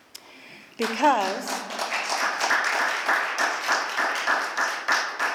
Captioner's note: applause